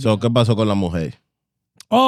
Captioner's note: speaking In Foreign Language